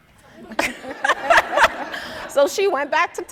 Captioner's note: audience, laughing